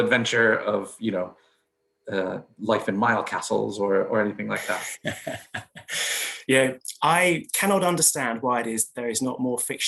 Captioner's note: laughs